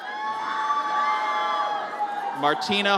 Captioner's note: audience cheers